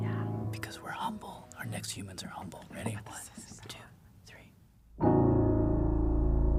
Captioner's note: whispers